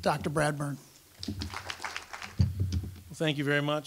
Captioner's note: applause